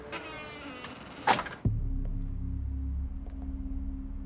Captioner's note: door creaks